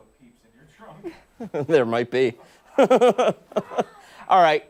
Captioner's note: laughter